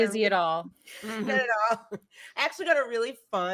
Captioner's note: laughs